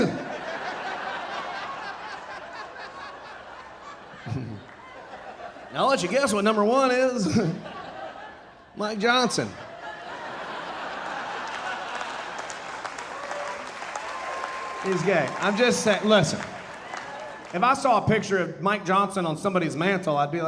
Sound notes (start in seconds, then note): 0.0 audience laughing; 9.7 audience laughing, cheering and applauding; 17.0 audience laughing